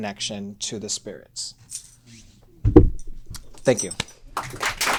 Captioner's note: applause